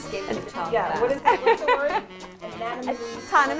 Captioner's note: laughs loudly